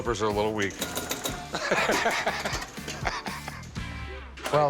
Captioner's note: laughs